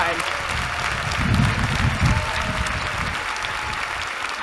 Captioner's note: applause